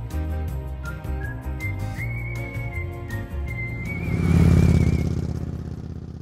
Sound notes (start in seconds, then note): 0.0 upbeat music; 4.2 engine revving